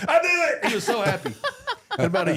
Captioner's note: group laughs